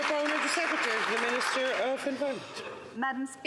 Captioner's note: some Applause